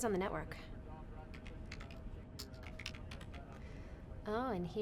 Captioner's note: keys clacking